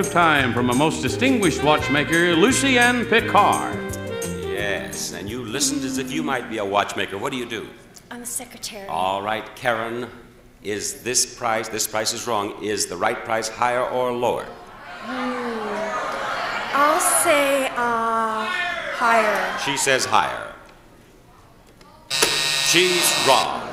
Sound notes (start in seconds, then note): 15.0 audience shouting suggestions